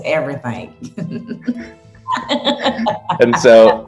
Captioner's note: laughing